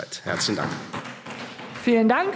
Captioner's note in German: Beifall Freie Demokraten